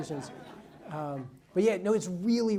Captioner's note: audience laughs